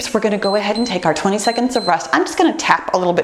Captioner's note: timer beeps